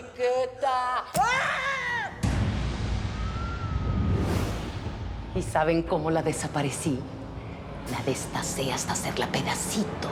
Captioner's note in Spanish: gritos de enriqueta